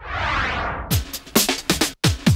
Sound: swoosh; upbeat music

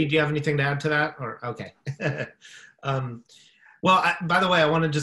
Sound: chuckling

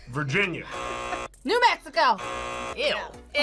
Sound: buzzer

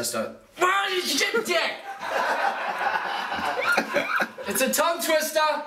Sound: laughing

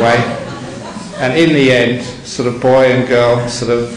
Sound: audience laughing

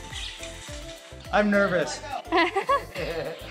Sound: laughter

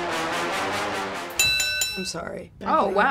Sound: bell rings

